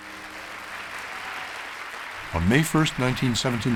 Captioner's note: applause